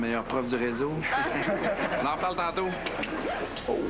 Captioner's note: Rires